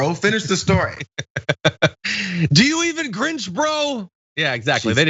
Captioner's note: laugh